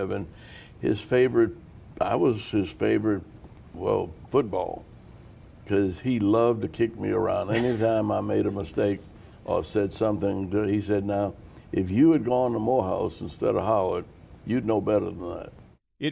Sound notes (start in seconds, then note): 7.5 laughter